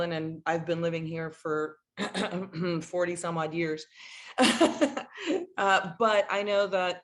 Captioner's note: laughs